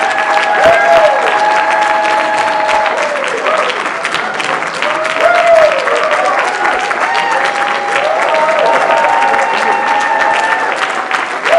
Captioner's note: applause